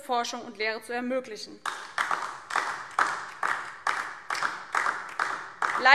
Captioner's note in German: Beifall DIE LINKE